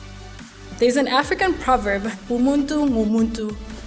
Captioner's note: speaking in foreign language